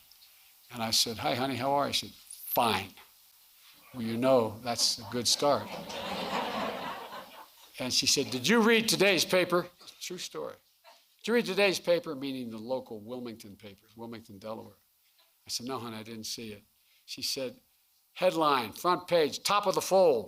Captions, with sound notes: And I said, "Hi, honey. How are you?" She said, "Fine." Well, you know that's a good start. (Laughter.) And she said, "Did you read today's paper?" True story. "Did you read today's paper?" -- meaning the local Wilmington paper -- Wilmington, Delaware. I said, "No, honey. I didn't see it." She said, "Headline, front page, top of the fold: